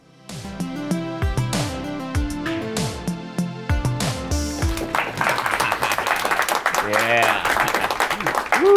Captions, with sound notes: (soothing music) (audience applause) - Ha ha, yeah, woo ha ha, nice.